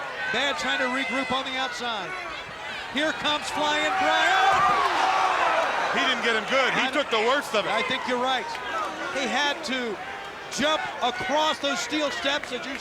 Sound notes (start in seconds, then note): 4.7 body thudding; 4.7 crowd shrieking